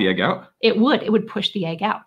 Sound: imitates echo

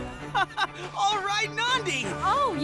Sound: laughing

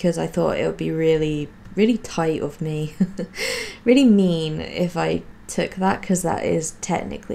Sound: laughs

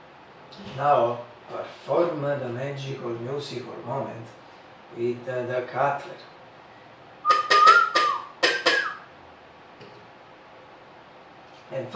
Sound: whistle

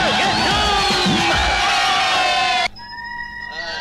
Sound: all Cheering

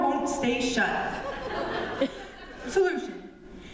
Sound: laughter

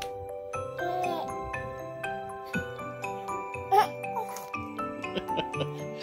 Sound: laughs

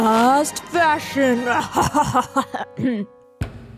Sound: laughs evilly, coughs

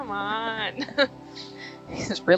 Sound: laughs

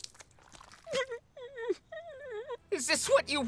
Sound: whimpering

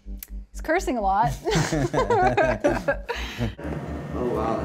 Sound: laughter

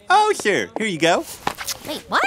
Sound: soundbite of duct tape ripping

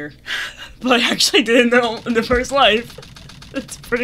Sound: laughter

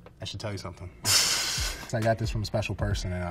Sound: laughs

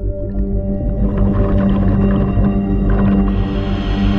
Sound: water bubbles; breaths in

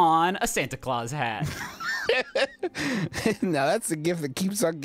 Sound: laughs

